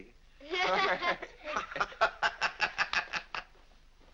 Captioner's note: laughing